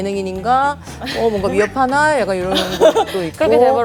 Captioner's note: haha